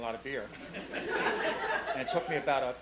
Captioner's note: laughing